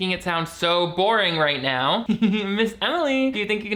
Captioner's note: chuckles